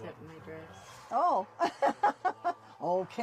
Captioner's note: laughs